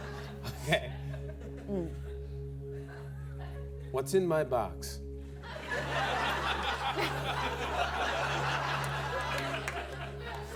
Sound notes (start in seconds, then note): 5.5 laughter